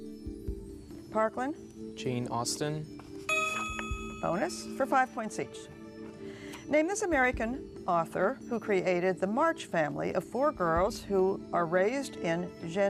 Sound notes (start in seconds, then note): 1.4 ding